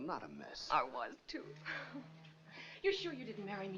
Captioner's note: chuckles